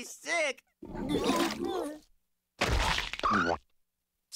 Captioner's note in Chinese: 嘔%^^%$$